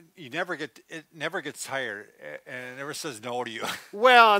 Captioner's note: chuckles